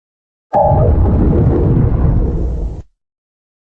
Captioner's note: Zalgo Windows XD Random Edition Shutdown Sound